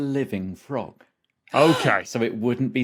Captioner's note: gasps